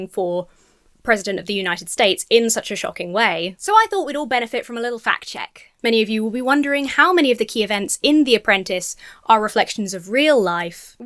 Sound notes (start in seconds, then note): none